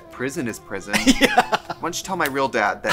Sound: laughs

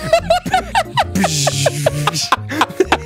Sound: laughing; making spaceship noise; both laughing

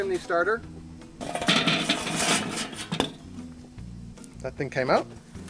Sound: coals clunking

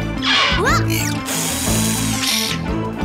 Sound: drill running

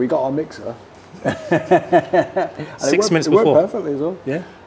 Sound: laughing

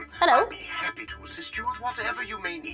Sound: male Voice

